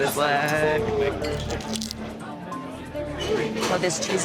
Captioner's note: chip crunching